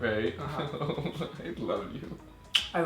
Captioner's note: laughs